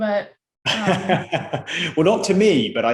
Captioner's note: laughs